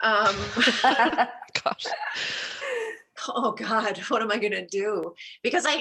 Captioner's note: laughter